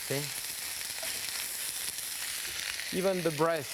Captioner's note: pan sizzling